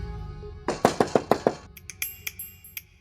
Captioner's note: knocking on door